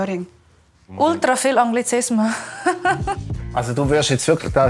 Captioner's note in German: Lacht